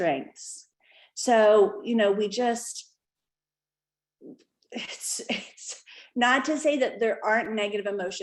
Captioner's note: laughter